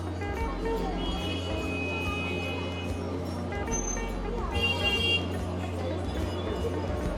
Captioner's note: horns honking